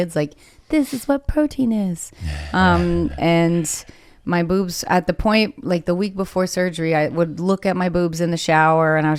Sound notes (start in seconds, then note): 2.2 chuckles